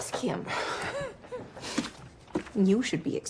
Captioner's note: laughs